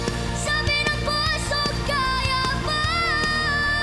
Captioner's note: none